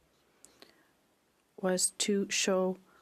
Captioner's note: speaking French